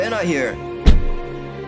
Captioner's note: car door slam